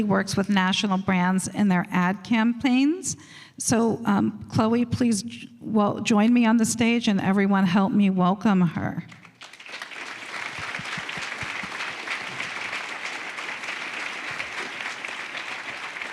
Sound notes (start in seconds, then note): 12.6 applause